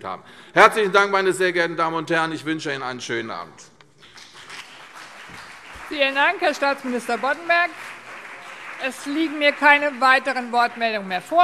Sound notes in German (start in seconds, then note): 4.0 Beifall CDU und BÜNDNIS 90/DIE GRÜNEN